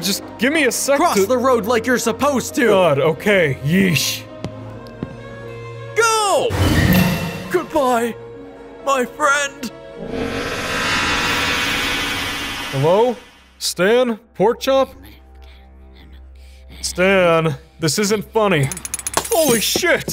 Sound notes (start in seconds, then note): 4.8 sorrowful string music; 7.0 portal hums; 9.9 portal hums; 19.0 light bulb shattering